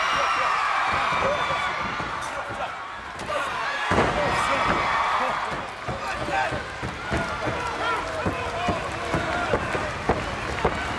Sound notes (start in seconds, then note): 0.2 crowd cheers; 3.8 bodies thud